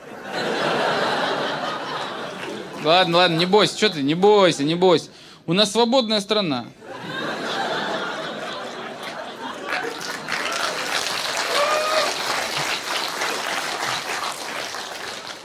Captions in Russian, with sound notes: (зал смеется) Ладно-ладно. Не бойся, че ты. Не бо-ойся, не бойся. У нрас свободная страна. (смех) (аплодисменты)